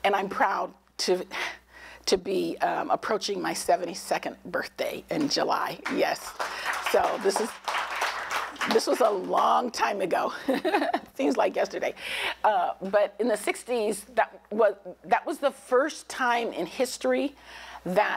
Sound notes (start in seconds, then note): 5.8 applause